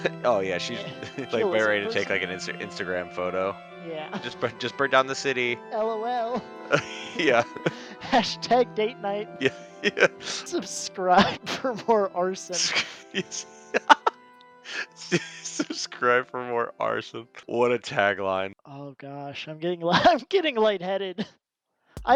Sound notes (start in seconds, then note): 9.6 laughs; 12.6 dies of laughter; 17.4 laughs